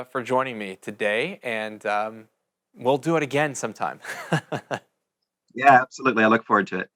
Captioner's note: chuckles